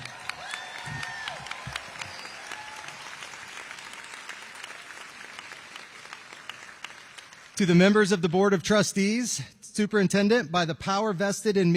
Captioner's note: applause